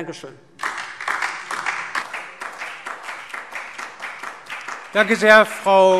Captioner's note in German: Beifall DIE LINKE und vereinzelt SPD